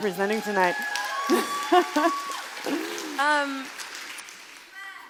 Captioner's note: crowd cheering